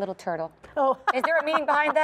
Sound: laugher

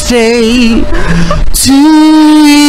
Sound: inhales loudly

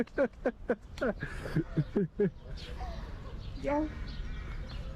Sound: laughter

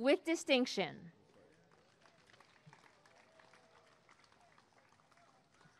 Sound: applause and cheering

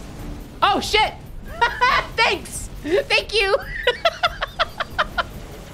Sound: laughing

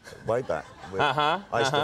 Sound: audience laughing

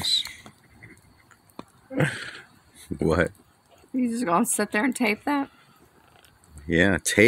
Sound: laughing

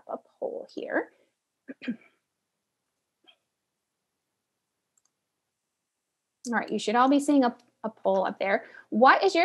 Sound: cough

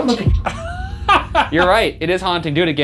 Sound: laughing

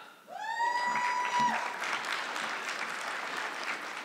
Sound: audience clapping

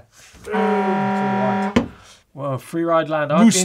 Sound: horn blasts

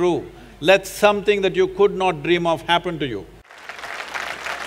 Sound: applause/Cheers

